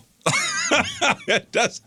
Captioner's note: laughing